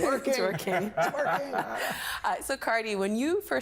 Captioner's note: everyone laughing